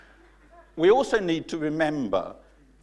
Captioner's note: laughing